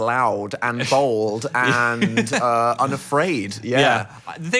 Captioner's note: chuckling